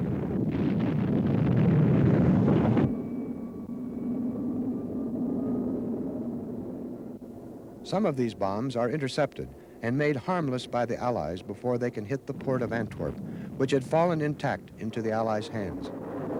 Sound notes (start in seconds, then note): 0.0 rocket blasts; 0.1 rocket thuds; 2.9 jet whistles; 2.9 wind murmurs